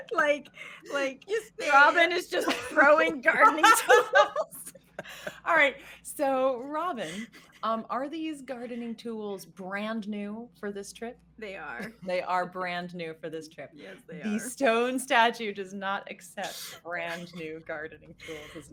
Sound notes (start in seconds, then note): 2.3 all three laughing